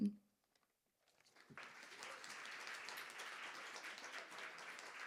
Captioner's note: audience applauding